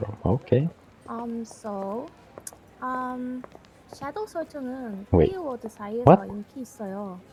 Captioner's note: speaks in Korean